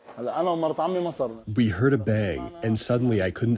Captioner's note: through translator